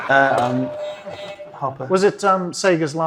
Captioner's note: buzzer sounds; audience laughs